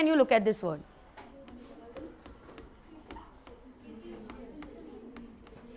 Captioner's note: chalk hitting board